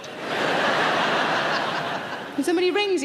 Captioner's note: audience laughing